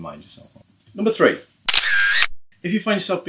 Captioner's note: camera shutter